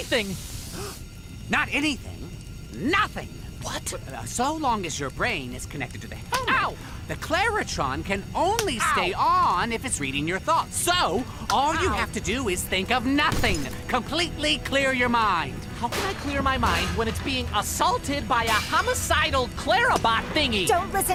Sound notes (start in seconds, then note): 0.6 gasps; 7.2 slap; 9.8 slap